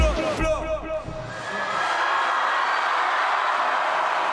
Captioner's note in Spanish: Vítores